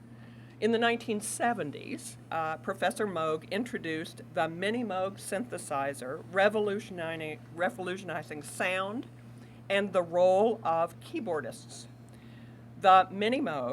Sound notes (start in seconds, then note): none